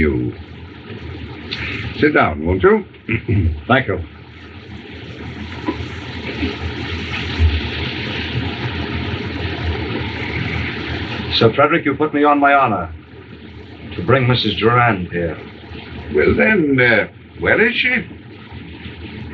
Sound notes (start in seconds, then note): 3.1 clears Throat